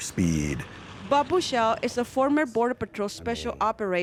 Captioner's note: voiceover